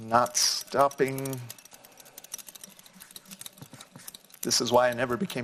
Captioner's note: glass clinking